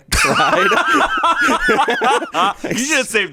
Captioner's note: everyone laughs